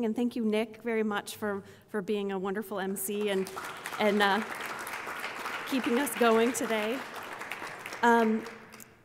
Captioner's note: applause